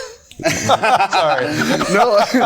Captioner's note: group laughing